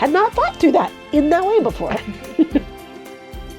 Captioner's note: laughs